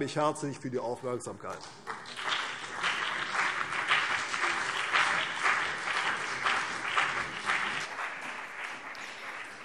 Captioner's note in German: Beifall CDU und BÜNDNIS 90/DIE GRÜNEN